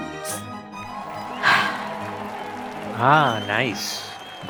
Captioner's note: moans in self love